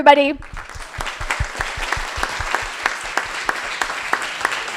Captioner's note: crowd applauding